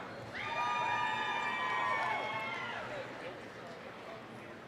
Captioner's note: applause, cheering